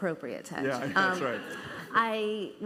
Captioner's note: laughter